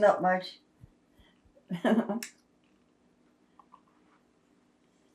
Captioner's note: laughing